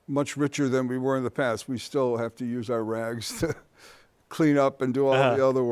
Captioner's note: chuckles